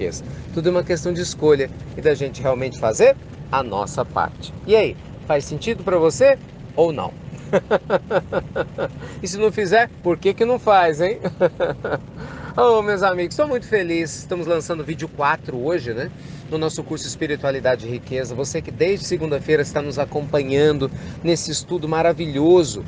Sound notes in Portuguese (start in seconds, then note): 8.2 Risos